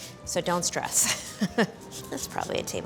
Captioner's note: laughs